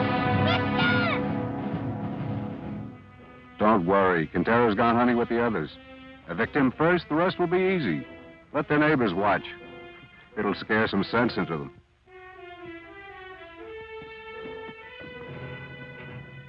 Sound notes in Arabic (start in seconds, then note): none